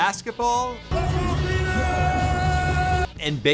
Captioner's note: fan cheering